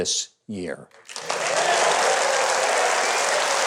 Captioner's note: audience applauds